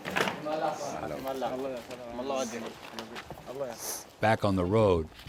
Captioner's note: Iraqis talking to Marines in Arabic; voiceover